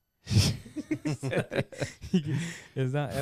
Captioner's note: laughter